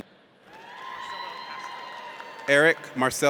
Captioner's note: audience cheers